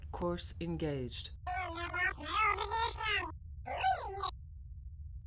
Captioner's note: robot makes sounds